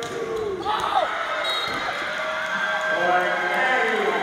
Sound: crowd noise; cheering

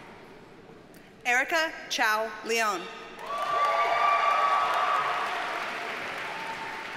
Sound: audience cheers and applauds

